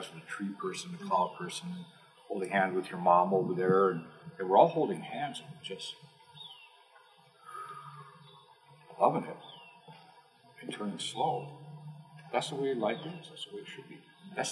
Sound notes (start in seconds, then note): 7.4 exhale; 7.4 inhale